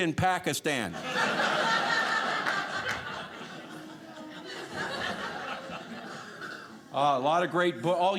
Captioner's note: audience laughing